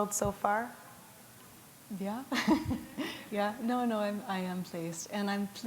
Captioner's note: chuckle